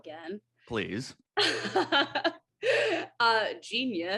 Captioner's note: AJ laughs